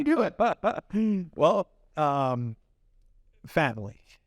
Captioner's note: both laugh